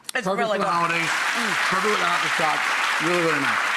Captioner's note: audience applauds